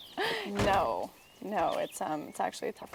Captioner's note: laughs